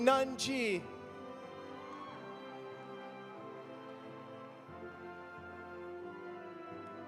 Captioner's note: audience applauding; audience cheering